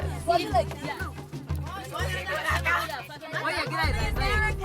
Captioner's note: all chattering